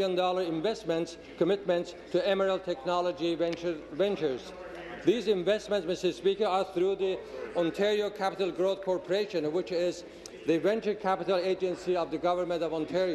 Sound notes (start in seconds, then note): 1.1 applause